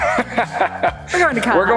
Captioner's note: laughing